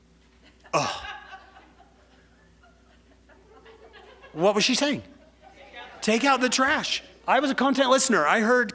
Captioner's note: sigh